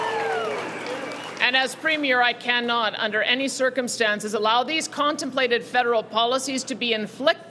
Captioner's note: cheering and Applause